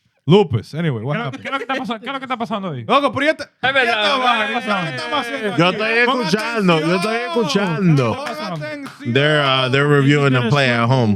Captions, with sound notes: Lupus, anyway, what happened? (Speaking In Foreign Language) They're reviewing the play at home.